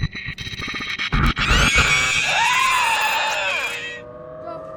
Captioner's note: shrieker noises